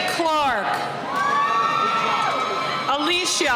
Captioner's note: cheering